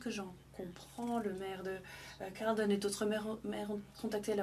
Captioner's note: speaking French